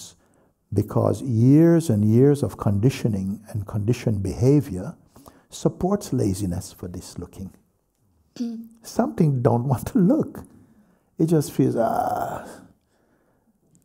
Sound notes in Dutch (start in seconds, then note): none